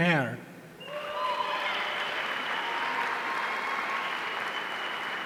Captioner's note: audience cheering